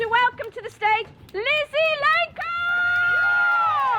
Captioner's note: applause